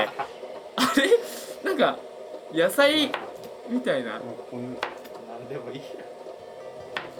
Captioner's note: laughs